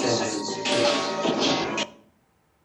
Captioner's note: electronic distortion